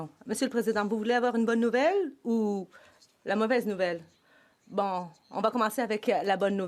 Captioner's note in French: voix de l'interprète